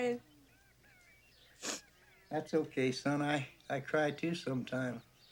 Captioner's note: birds chirping